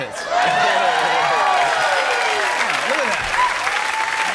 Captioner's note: cheers and applause